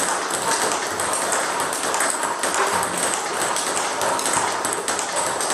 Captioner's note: ball ping pong hitting continues